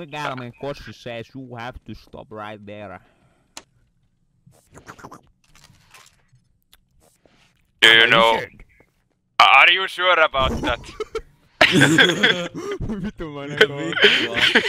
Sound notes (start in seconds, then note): 4.6 slurp